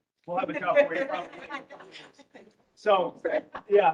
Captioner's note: laughing